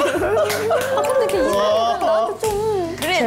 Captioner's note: clapping at her honesty